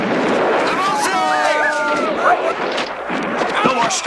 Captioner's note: Aplausos